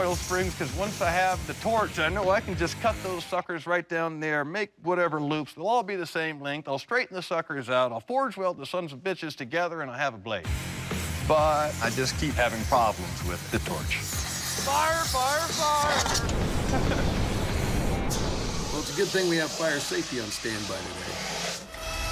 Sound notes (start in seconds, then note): 15.8 chuckles